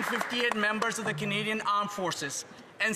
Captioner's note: some Applause